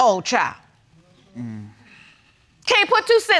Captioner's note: sighs